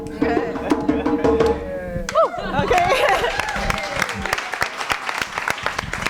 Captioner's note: applause